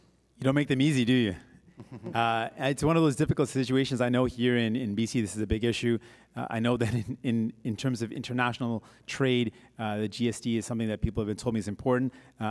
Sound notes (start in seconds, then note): 1.7 guy chuckles